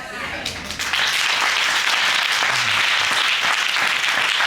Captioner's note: audience applauding